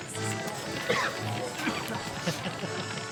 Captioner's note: non-english speech; coughing; laughter